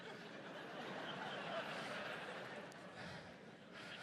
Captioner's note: audience laughs